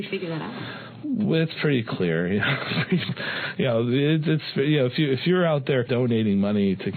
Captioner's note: laughter